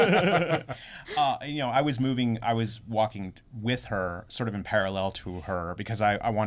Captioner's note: laughing